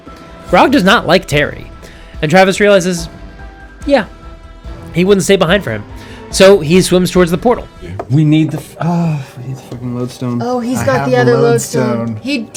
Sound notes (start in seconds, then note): 8.7 sigh